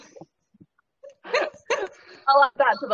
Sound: laughing

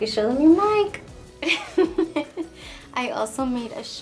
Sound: laughs

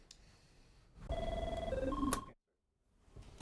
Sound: phone ringing

